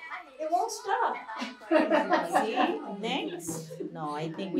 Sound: laughter

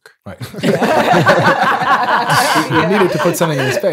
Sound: laughing

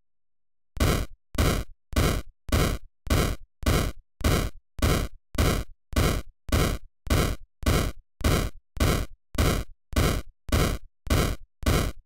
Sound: weapon firing

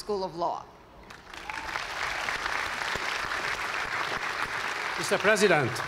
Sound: applause

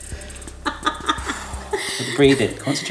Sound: laughs; breathes deeply

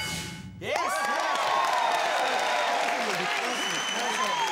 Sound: audience cheers

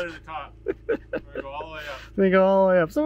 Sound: laughing

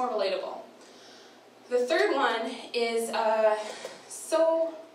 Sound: none

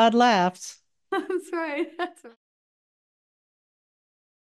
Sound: laughs

